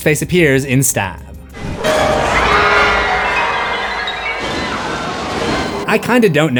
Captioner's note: screams